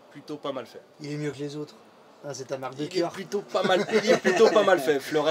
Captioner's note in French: rire